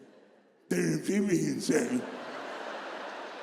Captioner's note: God’s voice mocking